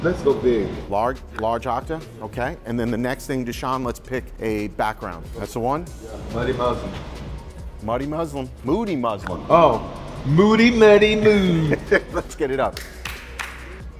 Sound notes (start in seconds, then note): 11.0 laughs